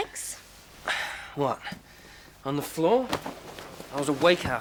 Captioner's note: sighs